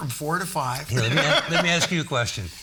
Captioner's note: all laughing